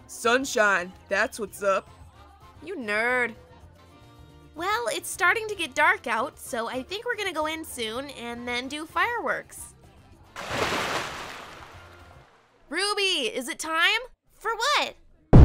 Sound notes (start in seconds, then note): 10.3 pool splash; 15.2 firework boom